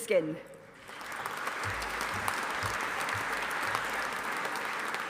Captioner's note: audience applauding